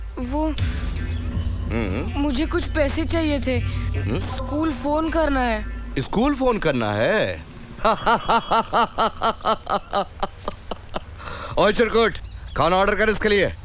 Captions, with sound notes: Well, I need some money. - Why? I have to call my school. - You have to call your school? (Laughs) You prick, order food for him.